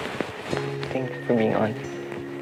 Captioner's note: bong